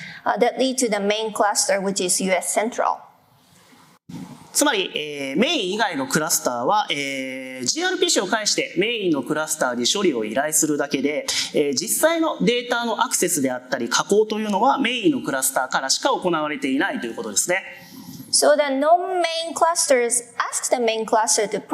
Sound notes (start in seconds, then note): 5.4 speaking japanese